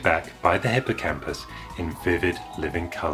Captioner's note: magical Dream 'Scale' Sound Effect